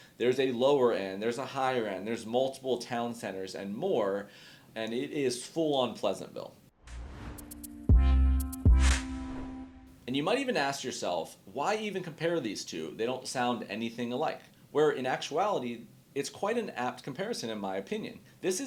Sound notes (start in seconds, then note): 6.8 graphic swooshing; 6.9 chill instrumental music